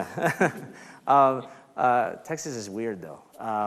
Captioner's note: laughs